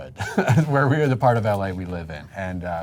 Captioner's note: chuckles